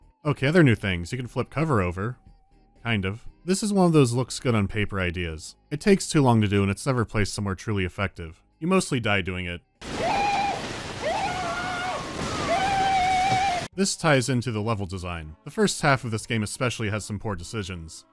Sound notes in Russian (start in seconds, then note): 9.8 крик Марва